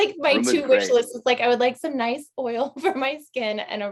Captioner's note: chuckles